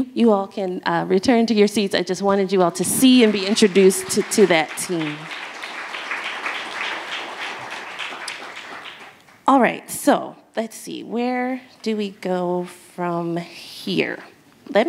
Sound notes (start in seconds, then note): 5.1 audience applauds